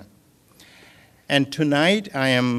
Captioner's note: none